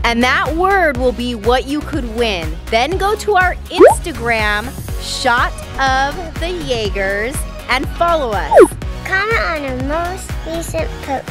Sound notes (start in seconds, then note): none